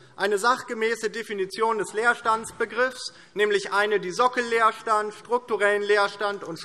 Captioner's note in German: none